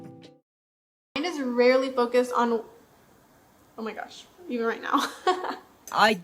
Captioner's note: laughs